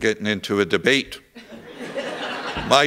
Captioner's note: laughter